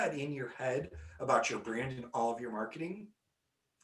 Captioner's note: none